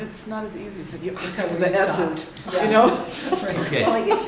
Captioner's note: laughter